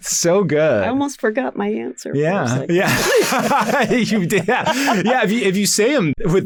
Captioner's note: laughs